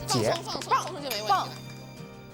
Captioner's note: coughs